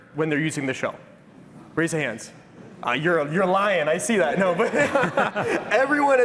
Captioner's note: laughter